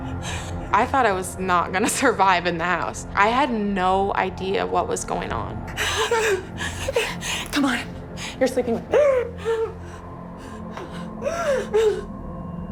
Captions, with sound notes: I thought I was not gonna survive in that house. I had no idea what was going on. - Come on, you're sleeping with me. (cries)